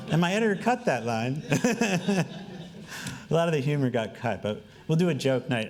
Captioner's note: laughing